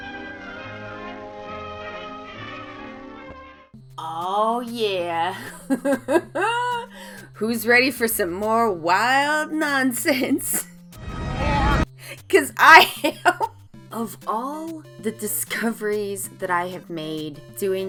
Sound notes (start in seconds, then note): 0.1 classical orchestra music; 5.3 laughs